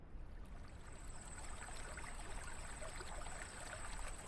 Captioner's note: water flowing